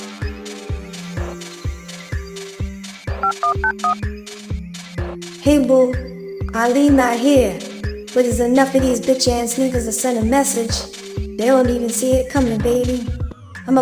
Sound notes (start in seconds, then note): 0.0 dramatic music continues; 3.2 phone dials